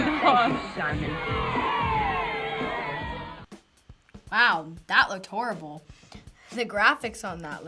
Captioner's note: kids cheering